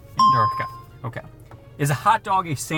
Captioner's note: bell rings